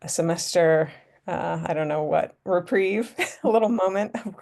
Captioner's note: laughter